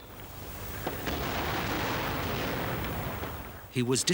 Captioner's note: guns firing